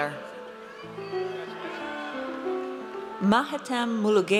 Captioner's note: audience cheers